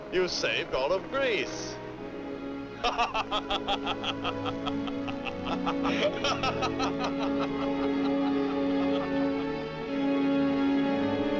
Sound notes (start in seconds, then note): 2.7 Androcles and Hercules laugh; 7.5 dramatic orchestral music